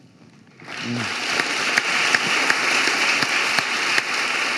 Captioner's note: audience applauding